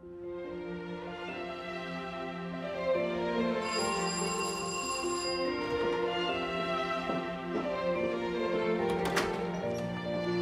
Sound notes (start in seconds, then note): 0.2 soft symphonic music; 3.6 doorbell rings; 6.9 footsteps descending